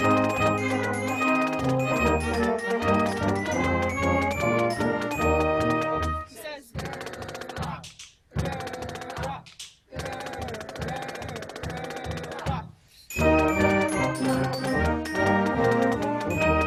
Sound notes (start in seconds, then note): 7.7 band members chanting; 13.1 marching band music